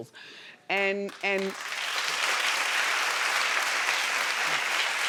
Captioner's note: audience applauding